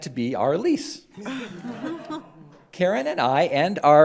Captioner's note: crowd laughs